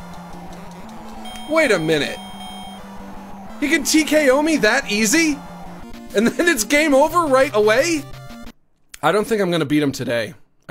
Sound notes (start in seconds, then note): none